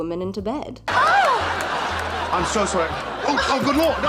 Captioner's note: canned laughter